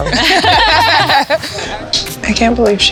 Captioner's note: laughter